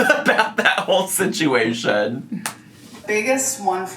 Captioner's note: laughs